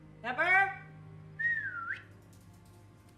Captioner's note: whistling